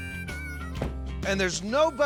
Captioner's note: door closes